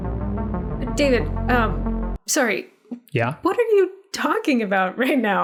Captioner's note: sort of a record-scratch interruption